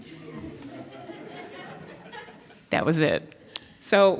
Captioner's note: audience laughs